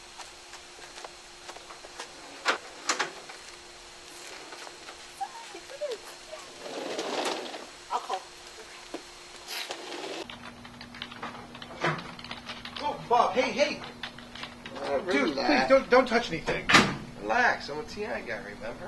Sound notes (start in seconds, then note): 0.2 screen door clicks; 6.4 sliding door; 10.2 keys tapping; 16.4 door closes